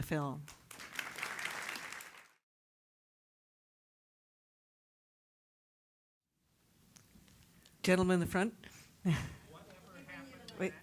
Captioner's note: applause